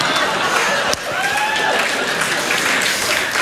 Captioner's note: laughter